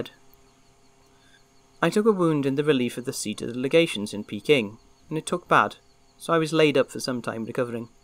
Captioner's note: sfx: forest noises, animals